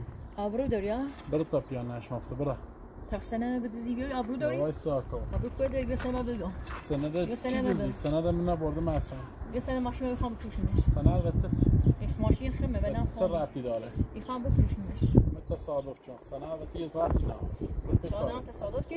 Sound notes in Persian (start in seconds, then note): 7.5 صدای مادر مجتبی